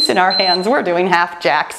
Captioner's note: timer beeps